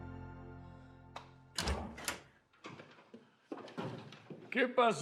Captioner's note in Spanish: ruido al abrir puerta